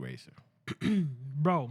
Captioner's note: clears Throat